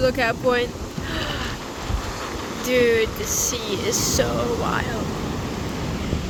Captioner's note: gasp